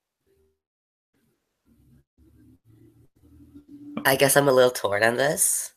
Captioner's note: extended silence